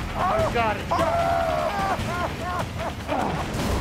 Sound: screaming, sobbing; grunt

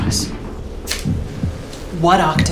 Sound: match striking

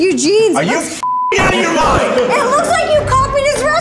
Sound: beep

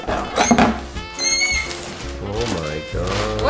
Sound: squeals

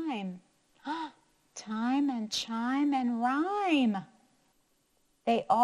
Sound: gasps

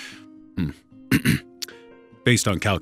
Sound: clears throat

